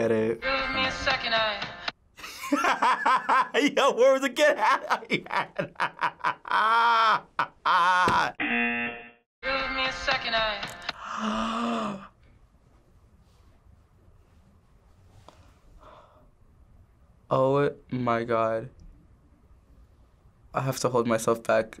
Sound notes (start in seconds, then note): 8.4 buzzer; 11.0 gasps